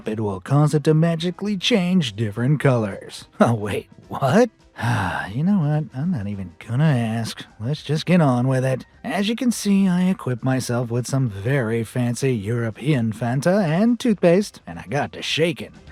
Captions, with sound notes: it will cause it to magically change different colours. Uh, wait – what?... [sighs] You know what, I’m not even gonna ask – let’s just get on with it. As you can see, I equipped myself with some very fancy European Fanta, and toothpaste, and I got to shaking.